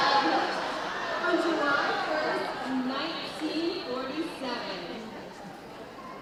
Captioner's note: audience chatting